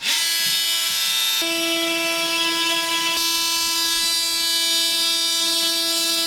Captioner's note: sawing sounds